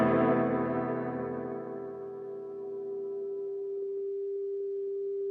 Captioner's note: tv static